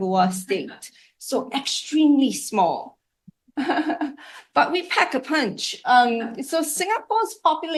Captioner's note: laugh